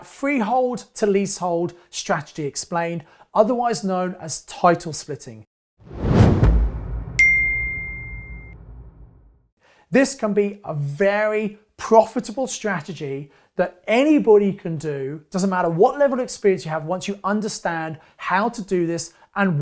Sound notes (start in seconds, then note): 5.8 air whooshing; 7.2 ding